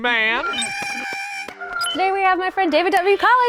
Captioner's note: Porg sounds